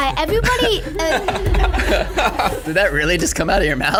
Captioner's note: laughing